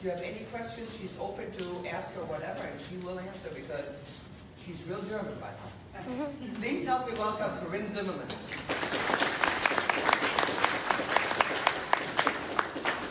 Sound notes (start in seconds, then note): 8.5 applause